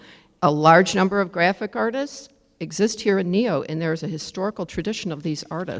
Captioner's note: none